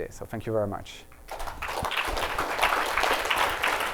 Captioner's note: applause